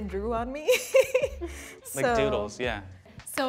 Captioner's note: laughs